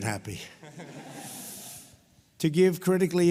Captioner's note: laughter